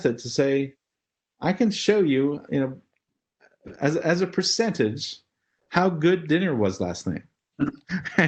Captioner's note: laugh